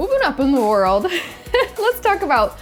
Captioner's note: laughs